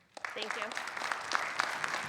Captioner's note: audience applauds